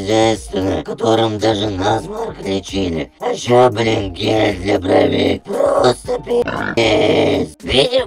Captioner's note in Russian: хрю